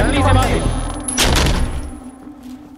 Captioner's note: Door closing